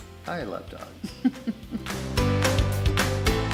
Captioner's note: laughs; upbeat music